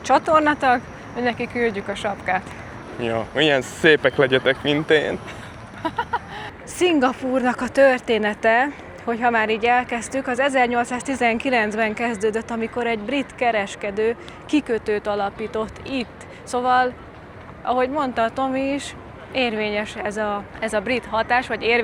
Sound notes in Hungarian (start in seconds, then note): 5.7 nevetés